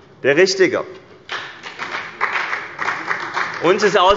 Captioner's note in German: Beifall bei dem BÜNDNIS 90/DIE GRÜNEN und der CDU